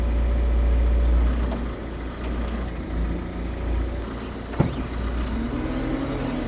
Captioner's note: telehandler engine rumbling continues